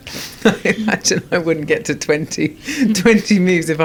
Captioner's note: laughs